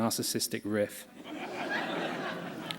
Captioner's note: laughter